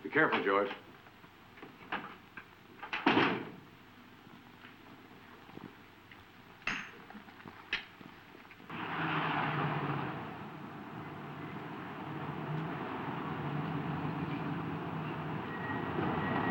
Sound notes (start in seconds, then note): 2.9 door latching; 8.6 car engine roaring